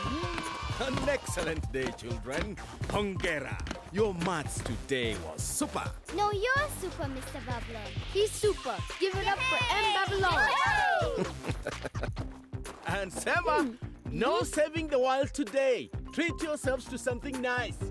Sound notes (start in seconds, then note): 9.2 cheering; 11.1 chuckling